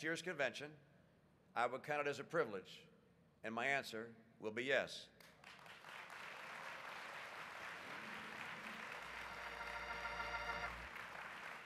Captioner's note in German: Applaus